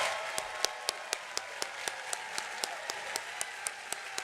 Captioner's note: applause